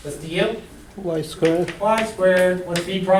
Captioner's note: voiceover